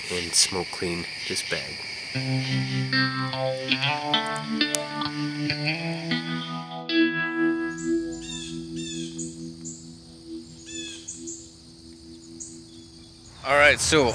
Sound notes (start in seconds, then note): 2.8 mellow guitar transition; 7.4 birds calling